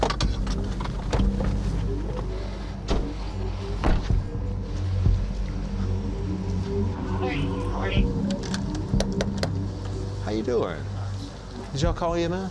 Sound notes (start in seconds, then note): 9.0 knocking